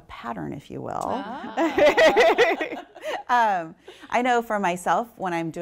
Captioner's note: laughter